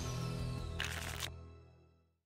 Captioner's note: shuffling sound